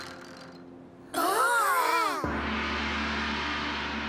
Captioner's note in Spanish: gritos ahogados